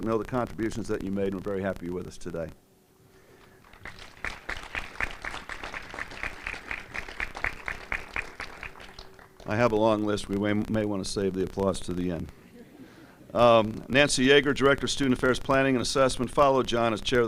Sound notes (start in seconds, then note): 3.3 applause